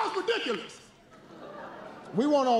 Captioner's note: laughter